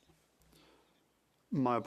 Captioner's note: speaking French